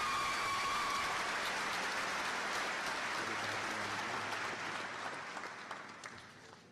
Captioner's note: applause